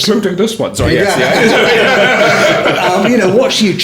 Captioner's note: laughing